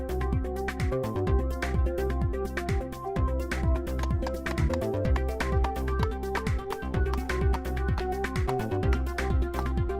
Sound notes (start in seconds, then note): 4.1 sledgehammer tapping